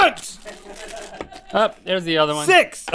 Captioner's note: crew chuckles